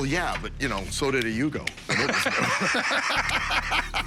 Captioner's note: laughter